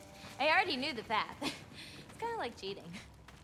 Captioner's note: laugh